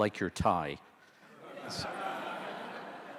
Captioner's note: audience laughter